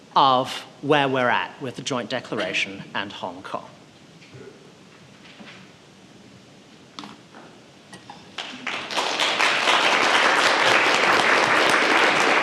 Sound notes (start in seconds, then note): 8.3 audience applauding